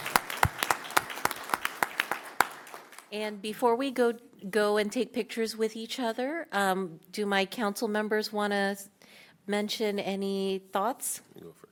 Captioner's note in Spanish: aplaudiendo